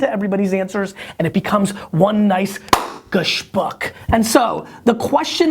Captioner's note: hand clap